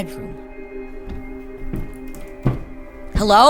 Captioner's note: footsteps